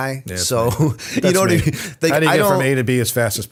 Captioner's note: chuckle